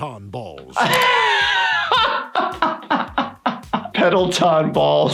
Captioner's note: laughs